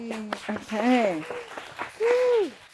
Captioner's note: audience clapping